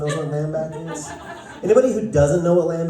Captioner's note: laughter